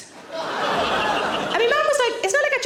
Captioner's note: audience laughing